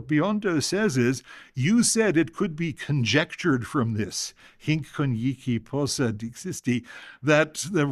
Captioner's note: non-english speech